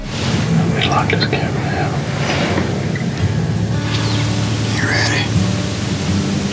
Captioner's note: whispering